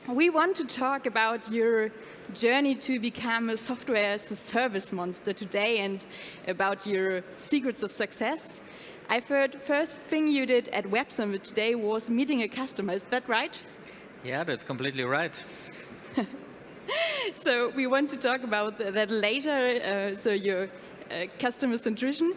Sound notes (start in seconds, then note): 16.0 woman laughing